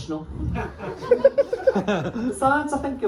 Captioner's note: laughter